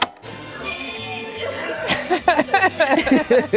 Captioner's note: cheerful music; all retching; Glenn and Meg laughing